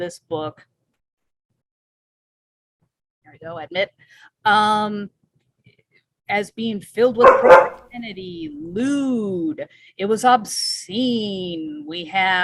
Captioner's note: dog barking